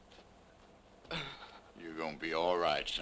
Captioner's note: Jeff moans